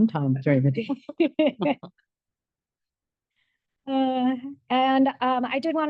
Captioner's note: board members laugh